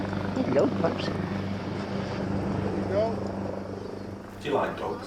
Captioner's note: boat droning; helicopter whirring